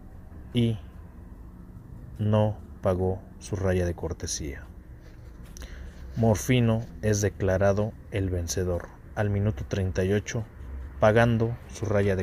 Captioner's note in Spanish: scratch